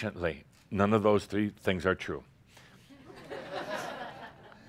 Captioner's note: more chuckles